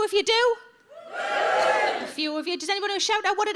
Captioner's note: audience wooing